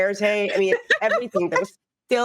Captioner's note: laughing